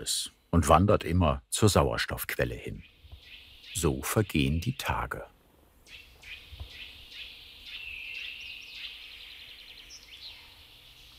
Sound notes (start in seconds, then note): 7.3 birds chirping